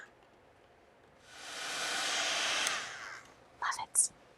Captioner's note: tool whirring